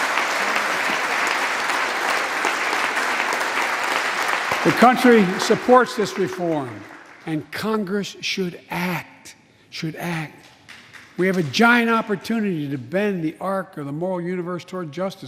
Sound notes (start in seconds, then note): 1.6 applause